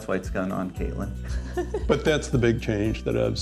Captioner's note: laughs